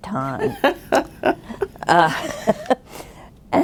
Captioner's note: laughing